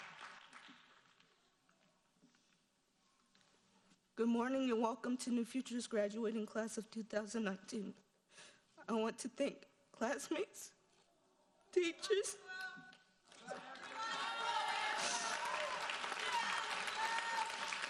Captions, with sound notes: - Good morning and welcome to New Futures, graduating class of 2019. I want to thank classmates, teachers-- (sobbing) (audience cheering)